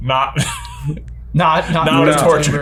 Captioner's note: laughs